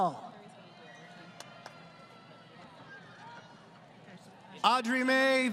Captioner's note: crowd Cheering